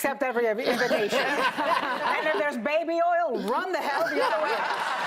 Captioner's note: laughter